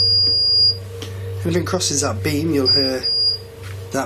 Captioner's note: beeping